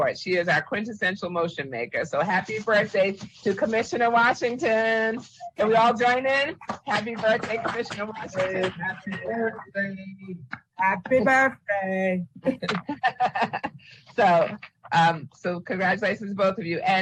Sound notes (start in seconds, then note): 12.4 laughs